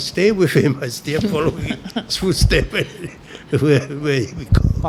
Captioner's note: laughs